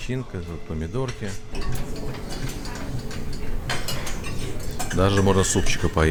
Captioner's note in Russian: звон посуды